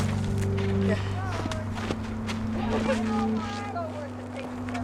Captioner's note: people chattering